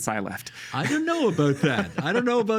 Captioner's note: laughing